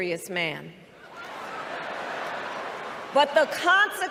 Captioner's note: crowd laughing